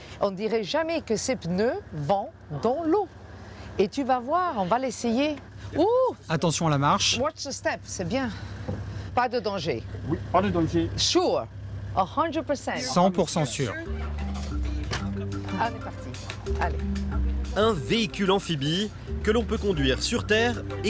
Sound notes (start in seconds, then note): 10.7 in English